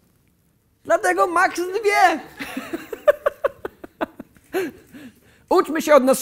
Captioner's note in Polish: śmiech